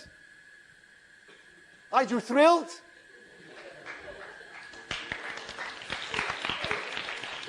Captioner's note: applause